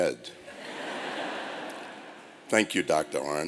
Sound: laughter

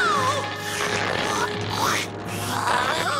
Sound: slurping; grunting

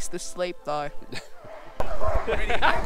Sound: chuckling

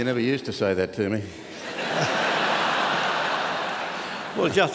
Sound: laughter

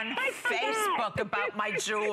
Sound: laughter

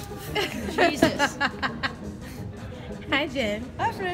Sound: laughing

